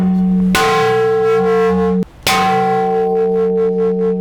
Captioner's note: metal clanging